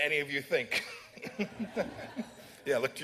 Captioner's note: laughter